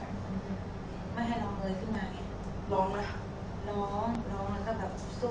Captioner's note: speaks in foreign language